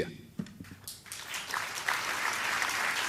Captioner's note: applause